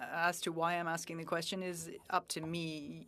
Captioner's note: speaking French